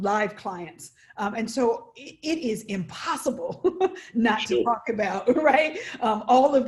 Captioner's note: laughs